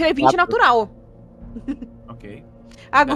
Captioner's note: risos